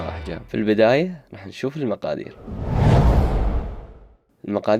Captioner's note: woosh sound